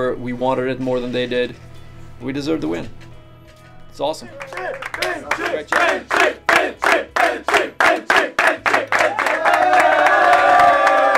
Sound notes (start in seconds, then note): 4.4 chanting/cheering